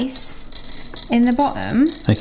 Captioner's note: rice tinkling in tray